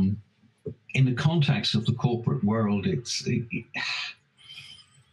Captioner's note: sighs